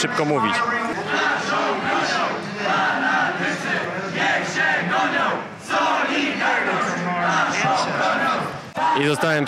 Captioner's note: chanting